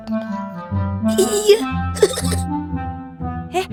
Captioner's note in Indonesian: tertawa